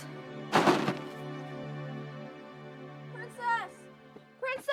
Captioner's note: bag thudding